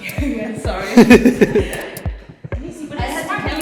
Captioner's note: laughing